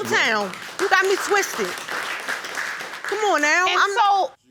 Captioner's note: audience applauding